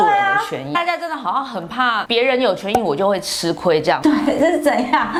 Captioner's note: laughing